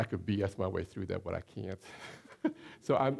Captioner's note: chuckling